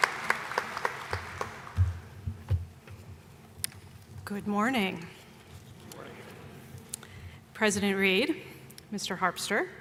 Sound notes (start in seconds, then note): 0.0 applause